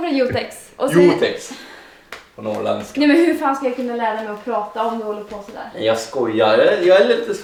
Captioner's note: imitating Denices accent